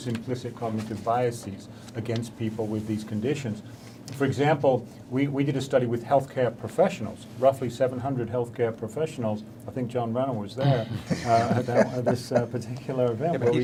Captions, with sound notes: implicit cognitive biases against people with these conditions. For example, we did a study with healthcare professionals, roughly 700 healthcare professionals. I think John Renner was there. (men laughing) At this particular event.